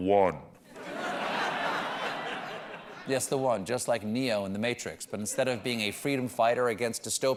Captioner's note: laughter